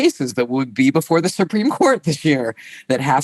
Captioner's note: laughs